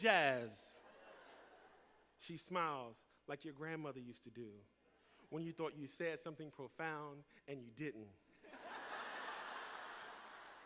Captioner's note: laughter